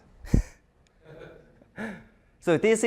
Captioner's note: chuckling